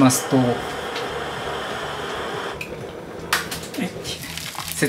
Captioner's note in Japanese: 湯沸かしの音